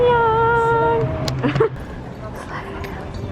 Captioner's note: laughs